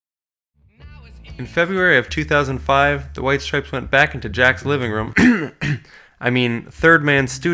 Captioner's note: cough